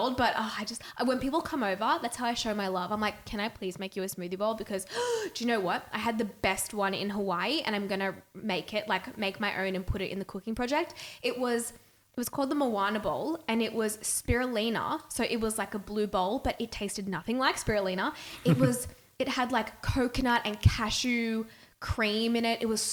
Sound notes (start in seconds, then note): 4.9 gasping